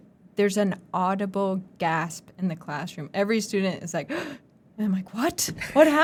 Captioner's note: gasp!